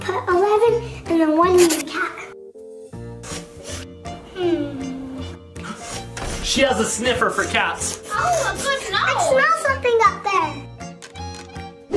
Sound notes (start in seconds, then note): 3.1 sniffs; 5.5 gasps